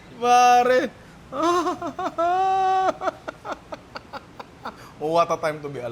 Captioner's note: laughs